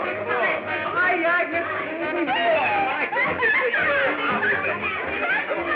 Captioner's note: laughing